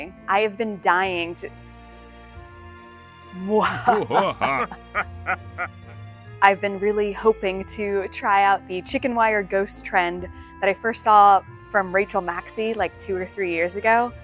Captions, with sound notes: I have been dying. [evil laugh] I've been really hoping to try out the chicken wire ghost trend that I first saw from Rachel Maksy, like two or three years ago.